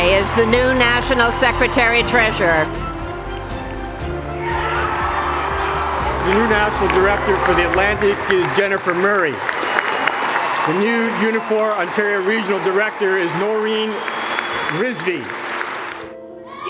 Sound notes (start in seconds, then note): 4.4 acclamations et applaudissements bruyants; 4.4 la musique triomphante continue; 9.2 le public applaudit bruyamment; 14.4 le public applaudit bruyamment; 16.5 acclamations et applaudissements bruyants; 16.5 la musique triomphante continue